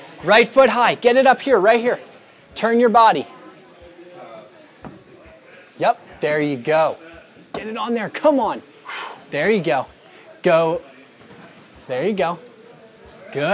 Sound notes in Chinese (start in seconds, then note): 8.8 叹息